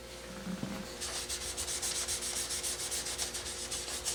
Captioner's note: scrubbing